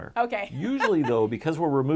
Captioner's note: laughter